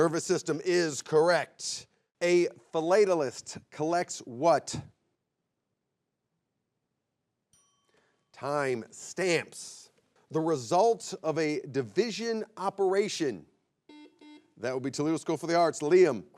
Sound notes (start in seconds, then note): 7.5 bell chimes; 13.8 buzzer beeps